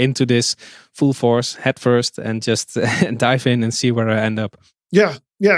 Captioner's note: chuckles